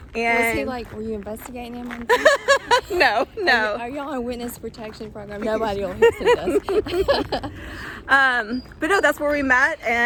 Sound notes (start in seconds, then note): 2.1 laughs